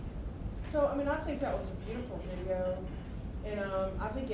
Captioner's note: voiceover